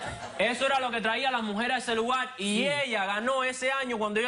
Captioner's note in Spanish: Risas